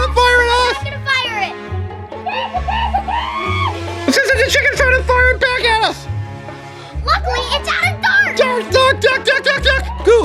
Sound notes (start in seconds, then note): 2.4 clucks